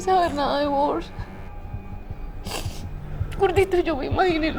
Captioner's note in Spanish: Sollozos